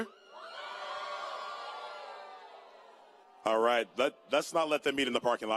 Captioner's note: cheering